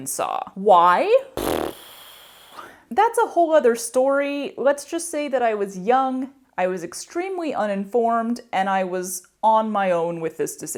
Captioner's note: mouth fart